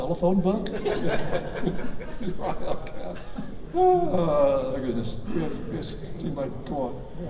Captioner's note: everyone laughs; sighs